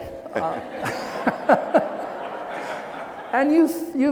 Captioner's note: laughing